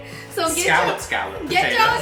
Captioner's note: laughing